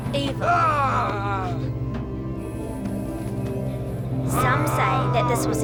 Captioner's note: ominous music; Zoot yelling